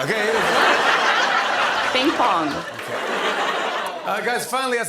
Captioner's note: laughter